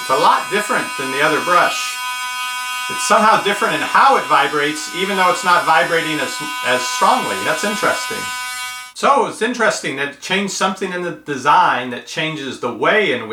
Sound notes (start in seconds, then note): 2.0 loud toothbrush motor buzzing